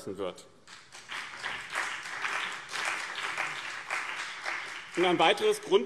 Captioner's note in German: Beifall BÜNDNIS 90/DIE GRÜNEN und CDU